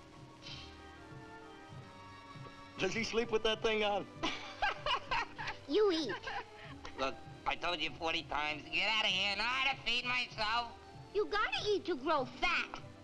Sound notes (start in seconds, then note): 4.2 Nona laughing